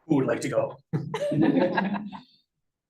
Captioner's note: laughter